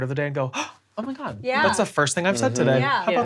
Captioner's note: gasps